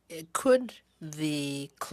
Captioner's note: speaking in french